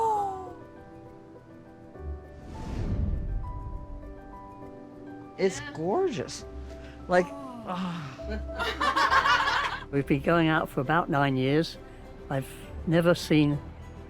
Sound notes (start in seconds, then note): 6.8 sighs contentedly; 8.3 laughter